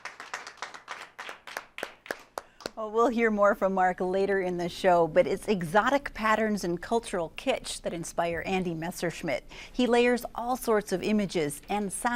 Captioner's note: applause